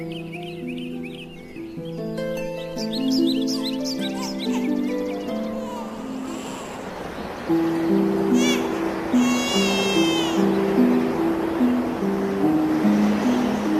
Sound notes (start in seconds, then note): 5.2 echoing baby cry; 10.8 mysterious music